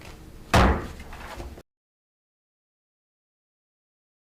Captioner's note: gavel thumps